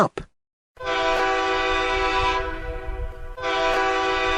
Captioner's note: horn blasts